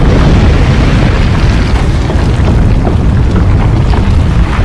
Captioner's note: rubble crumbling